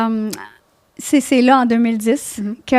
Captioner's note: in french